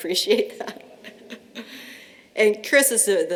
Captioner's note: laughter